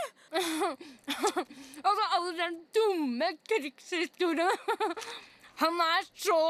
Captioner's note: mouth full